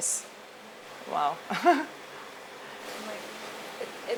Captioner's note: chuckles